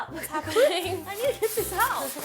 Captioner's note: laughs